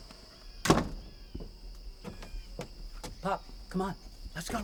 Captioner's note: door shuts